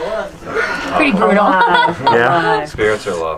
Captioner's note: laughing